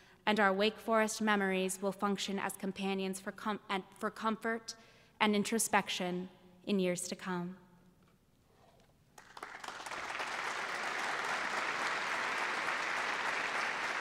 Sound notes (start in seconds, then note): 9.1 applause